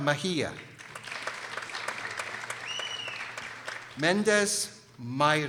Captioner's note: people applauding